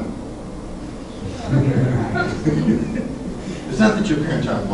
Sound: class laughs

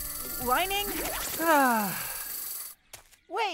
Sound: sigh

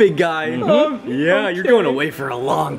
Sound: whimpers

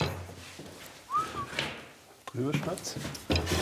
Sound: appreciative whistle

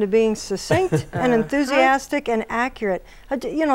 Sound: laughing

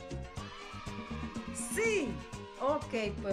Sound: cheering

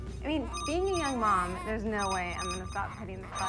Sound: voices fade out, telephone rings

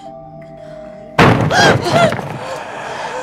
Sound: banging sound

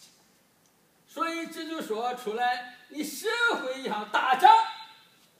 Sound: speaking foreign language

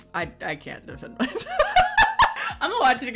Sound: laughs

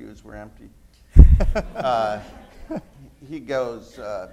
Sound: laughter

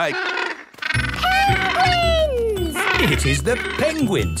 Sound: honking

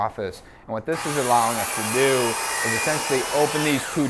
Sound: saw buzzing

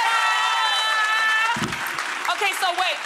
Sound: audience claps

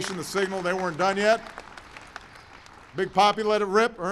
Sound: applause

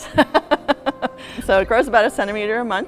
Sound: laughter

